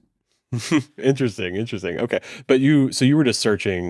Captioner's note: chuckles